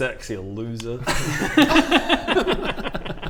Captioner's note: arrogant laughs